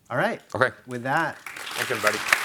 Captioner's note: attendees applauding